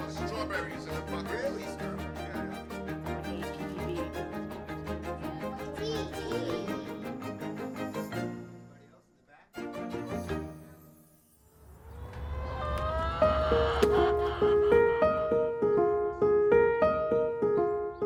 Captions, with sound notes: - We have strawberries in the buckets. - Really, strawberries? - Yeah, yeah. (gentle music continues) - And what's this one? - D! - Anybody else, in the back? (chickens cawing) (gentle piano music)